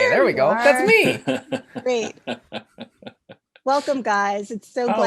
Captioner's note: laughs